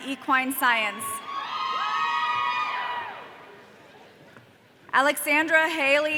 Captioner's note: audience cheering